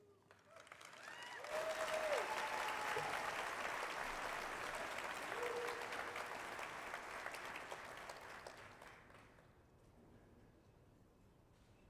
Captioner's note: applause